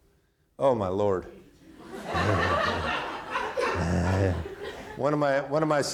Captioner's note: audience laughing; chuckles